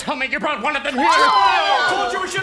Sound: screams

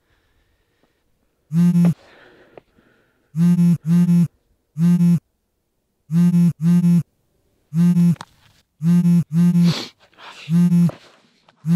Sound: phone vibrating

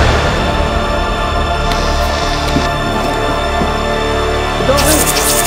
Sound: electric buzzing; web shooting

